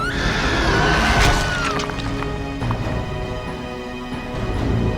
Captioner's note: screams; growls